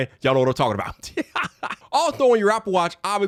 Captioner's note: laughs